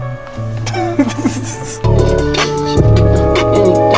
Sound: laughs

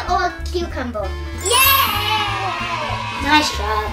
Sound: cheering

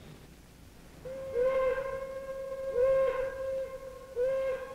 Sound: sirens blaring

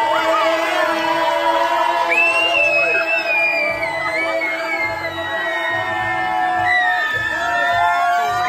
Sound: audience cheering in background; cast shouting

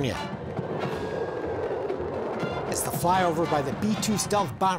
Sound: B-2 stealth bomber roaring

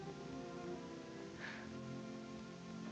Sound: chuckles

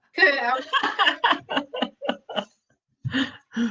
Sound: chuckling

